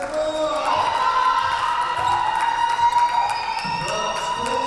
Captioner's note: cheering and applause